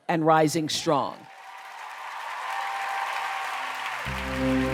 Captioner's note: cheers and applause